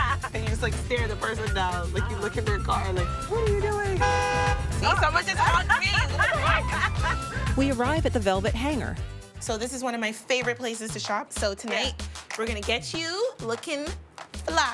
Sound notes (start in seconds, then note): 3.7 horn honks; 4.8 laughs